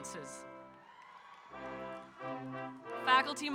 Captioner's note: audience cheering